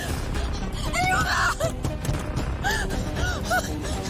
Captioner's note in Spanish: Sollozos